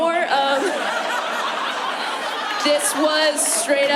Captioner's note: laughter